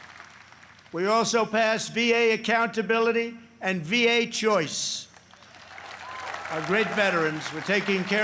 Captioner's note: applause